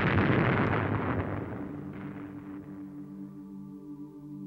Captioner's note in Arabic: انفجار